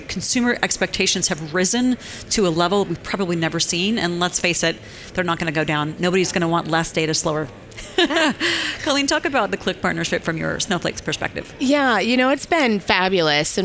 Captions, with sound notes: Consumer expectations have risen to a level we've probably never seen, and let's face it, they're not going to go down. Nobody's going to want less data, slower. (laughs) Colleen, talk about the Qlik partnership from your Snowflake's perspective. >> Yeah, it's been fabulous,